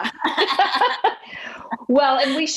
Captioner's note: laughing